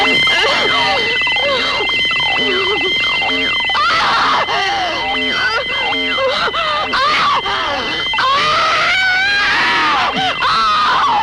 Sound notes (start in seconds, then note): 3.6 screaming